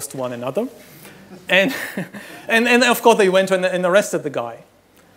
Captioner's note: laughs